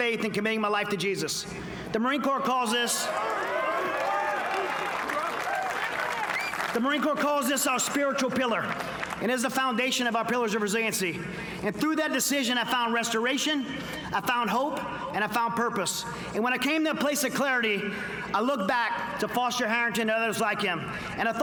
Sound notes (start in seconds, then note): 3.4 applause